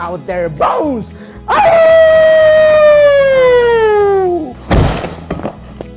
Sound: Howls in Viking

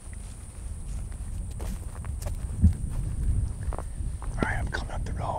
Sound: grass crunching; wind rustling

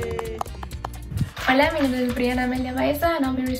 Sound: all cheering; speaks in foreign language

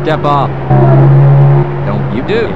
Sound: Gargantua Keeps Screaming

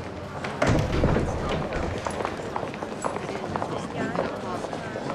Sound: chatter

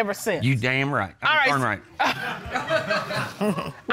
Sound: chuckles

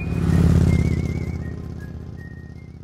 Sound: cheerful music; engine whirs

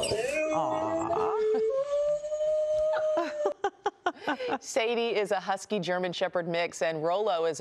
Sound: howling

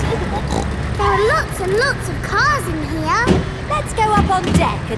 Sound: giggling; snorts

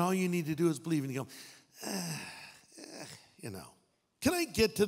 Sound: sighing

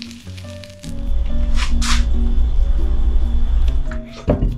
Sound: corn pulling

